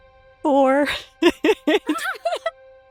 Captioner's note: chuckles